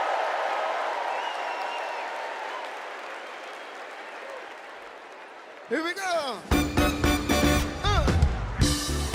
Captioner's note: cheers and applause